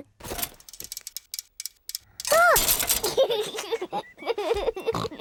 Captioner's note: giggling; snorts